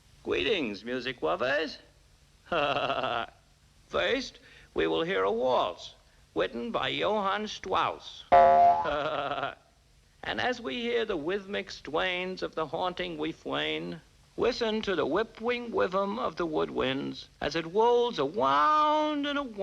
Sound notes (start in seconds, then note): 2.5 chuckling; 8.6 Elmer chuckling